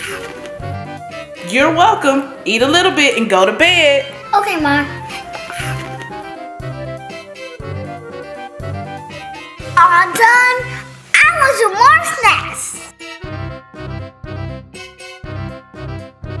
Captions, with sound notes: (munching) - You're welcome, eat a little bit and go to bed. - Okay Mommy. (munching) (comical music) All done, I want some more snacks! (comical music)